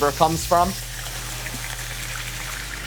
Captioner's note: oil sizzling